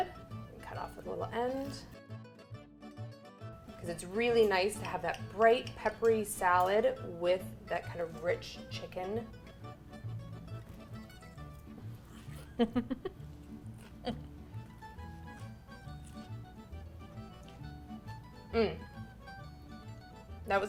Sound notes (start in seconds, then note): 9.3 bright subtle music; 12.4 giggles; 14.0 bright subtle music